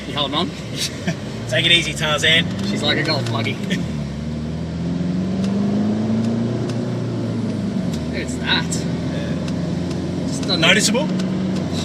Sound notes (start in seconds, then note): 4.0 both laughing; 4.9 vehicle accelerating, engine revving